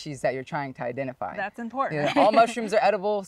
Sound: laughs

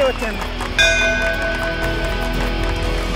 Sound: bell dings

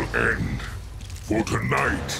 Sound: none

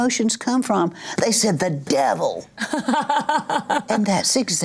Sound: laughs

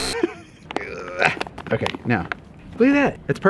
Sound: buzzing; grunting

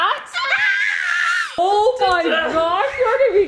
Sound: screams

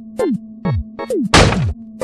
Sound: smash

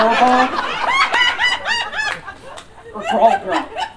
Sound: audience Laughing

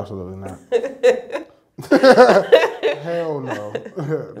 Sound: laughing

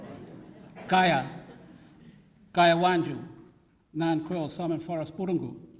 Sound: speaks in language

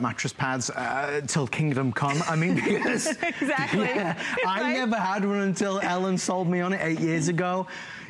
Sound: laughter

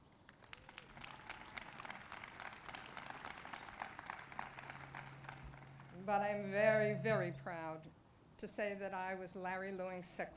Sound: applause

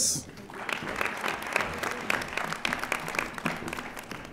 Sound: audience applauding

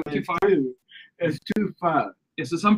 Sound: group Laughs

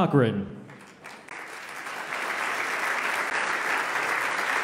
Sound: loud clapping

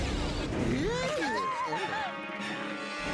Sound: all screaming

